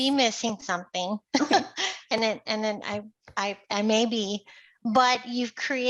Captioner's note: laughs